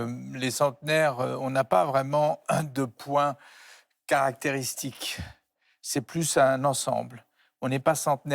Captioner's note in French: raclement de gorge